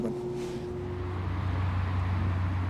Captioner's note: plane roaring